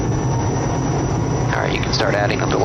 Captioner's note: plane engine roaring